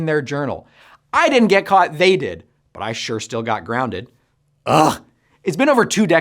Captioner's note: sigh